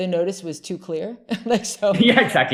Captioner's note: laughs